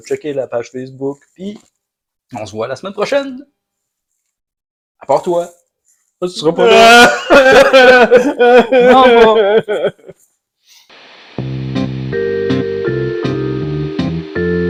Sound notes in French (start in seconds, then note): 6.5 sanglots bruyants